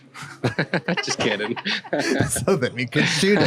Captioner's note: laughing; laughs